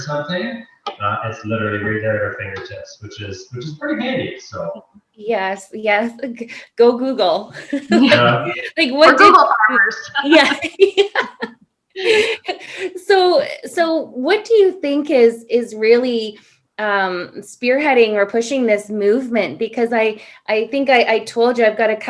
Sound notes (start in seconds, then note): 12.5 laugh